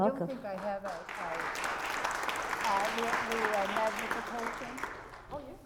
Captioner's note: applause